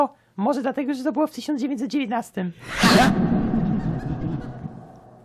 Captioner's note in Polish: śmiech się urywa